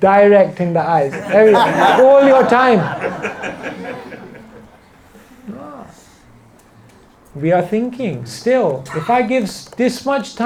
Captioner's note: laughter